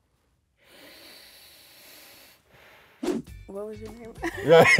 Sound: inhales

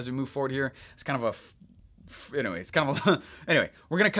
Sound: laughing

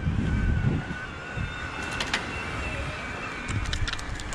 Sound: electric motor whining

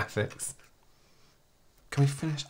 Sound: haunting Silence

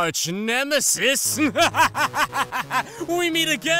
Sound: sunset laughs evilly

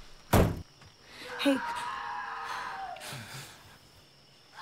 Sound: in the back round- aAAAAAAAAAAAAAHHHHHHH

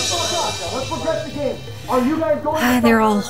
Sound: distanced shouting

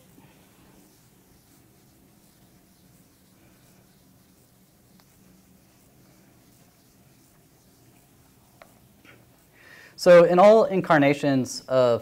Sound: silence

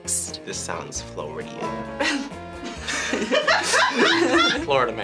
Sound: group laughs

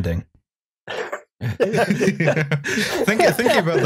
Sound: laughter

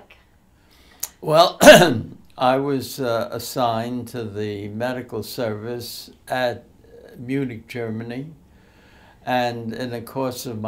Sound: clears throat

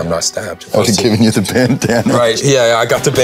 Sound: laughing

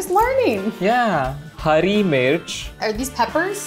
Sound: speaking in Hindi

